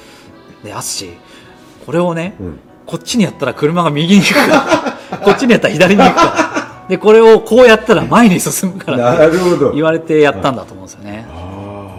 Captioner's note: laughs